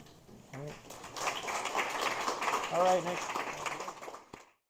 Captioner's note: applause